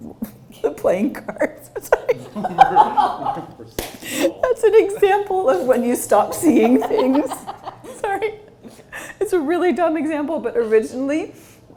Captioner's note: giggles